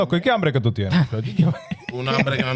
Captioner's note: laughing